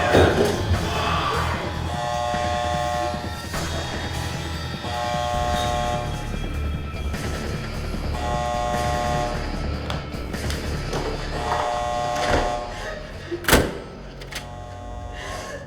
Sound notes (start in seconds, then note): 0.2 David yelling; 5.2 alarm buzzing; 8.3 high-tension music; 11.3 alarm buzzing